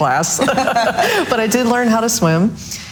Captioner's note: all laughs loudly; laughs softly